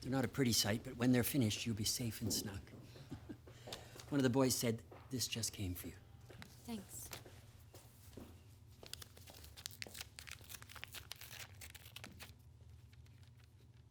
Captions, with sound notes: - They're not a pretty sight, but when they're finished, you'll be safe and snug. (chuckles) One of the boys said this just came for you. - Thanks. (paper ripping)